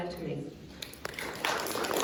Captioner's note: applause